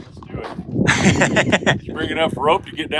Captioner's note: laughs